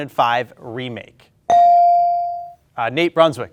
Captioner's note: ding chimes